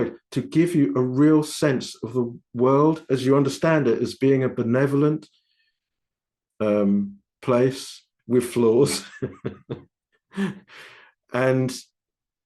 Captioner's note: laughing